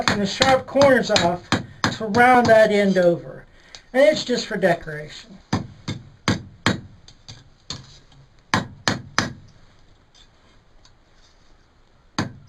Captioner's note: hammer noises